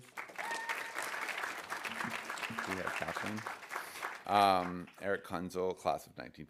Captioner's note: audience applauding